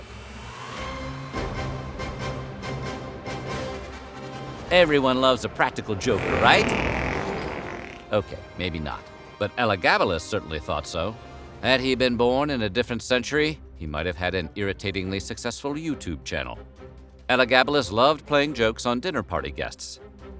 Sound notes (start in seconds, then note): 6.0 fart